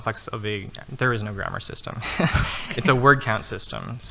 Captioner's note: laughing